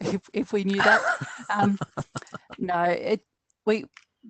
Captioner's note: chuckles